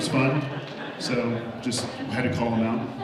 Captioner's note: audience laughs